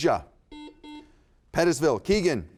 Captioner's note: buzzer beeps